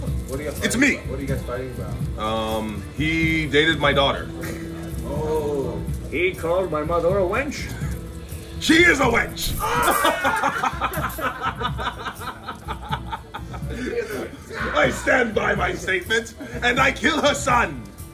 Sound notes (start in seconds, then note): 9.5 laugh